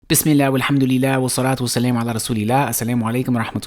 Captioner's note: foreign language